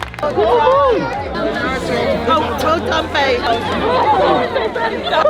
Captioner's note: cheering